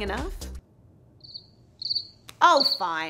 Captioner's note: crickets